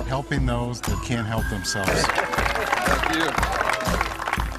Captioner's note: applause